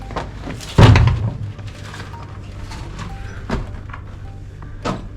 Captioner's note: scraping and thumping